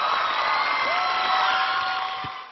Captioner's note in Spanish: aplausos